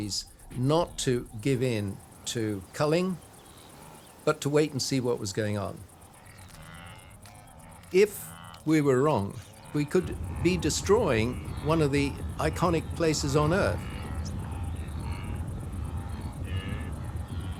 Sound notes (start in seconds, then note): 14.2 grunting